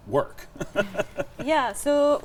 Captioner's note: laughing